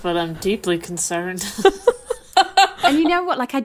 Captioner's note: laughing